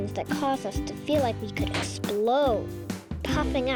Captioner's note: balloon pops; playful piano music